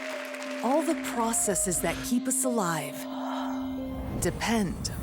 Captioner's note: heavy breathing